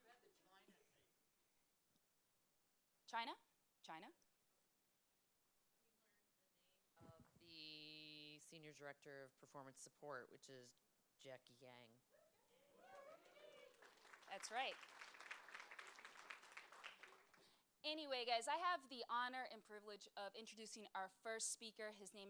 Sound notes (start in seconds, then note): 12.8 applause